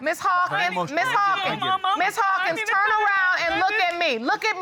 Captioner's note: whimpering indistinctly